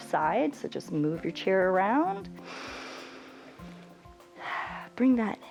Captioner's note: inhales and exhales